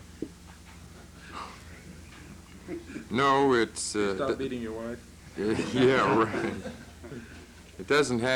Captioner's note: laughter